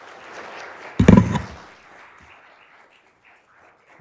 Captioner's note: audience clapping